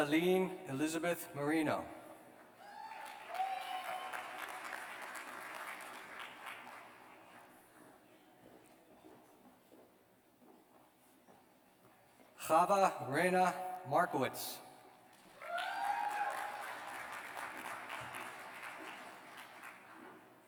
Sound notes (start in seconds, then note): 0.2 cheers; 15.1 cheers and applause